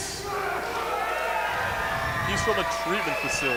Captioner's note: crowd cheers and screams